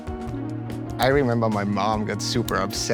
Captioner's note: watch ticking